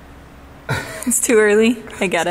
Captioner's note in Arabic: رجل يضحك